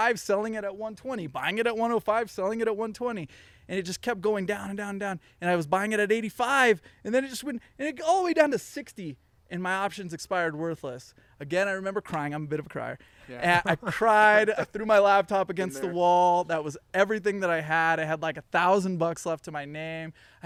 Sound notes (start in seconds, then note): 13.2 all laughing